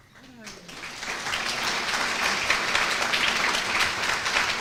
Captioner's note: applause